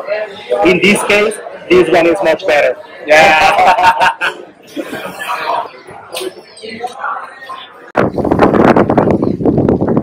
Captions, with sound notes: In this case, this one is much better. (laughing)